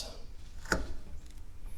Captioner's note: sound of leather cutting